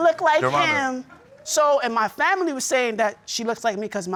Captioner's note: in normal voice